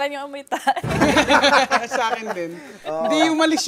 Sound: laughter

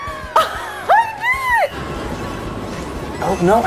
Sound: Peach cheers; chuckles

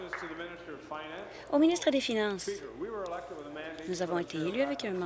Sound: applause and cheering

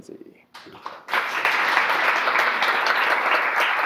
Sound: audience applause

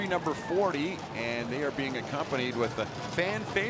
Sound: cheering and Applause

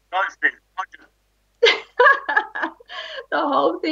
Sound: laughts

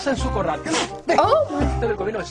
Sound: man in video speaking Spanish; spits

